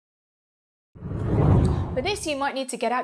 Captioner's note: air whooshes